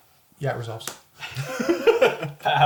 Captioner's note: all laugh